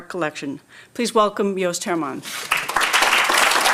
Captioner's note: applause